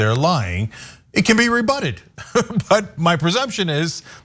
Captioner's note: laugh